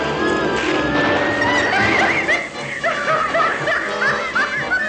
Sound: cackling

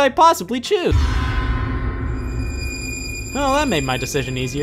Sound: sharp, eerie sound

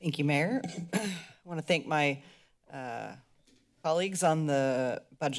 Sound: clears throat

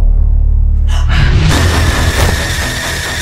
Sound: gasps

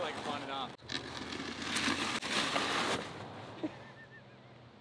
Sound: gravel crackling; woman laughing

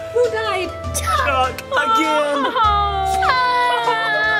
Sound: crying

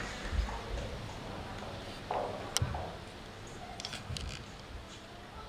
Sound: sound of heels walking on hard floor

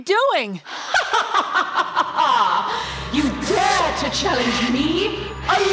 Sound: laughing

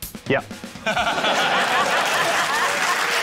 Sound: laughter; applause

